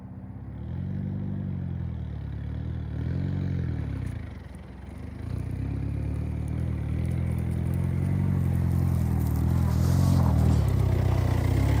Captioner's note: engine revving